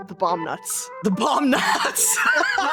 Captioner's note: laughing